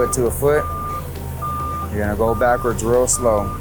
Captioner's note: lift alarm beeps